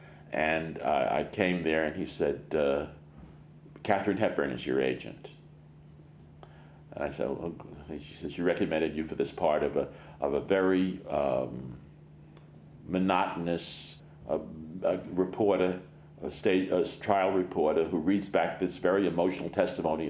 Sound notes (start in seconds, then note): none